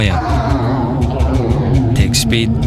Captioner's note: distorted noises